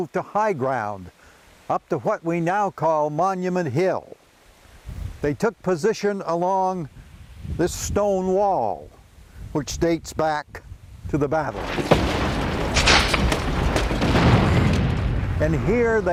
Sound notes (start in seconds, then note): 11.4 bombs exploding; 11.5 guns firing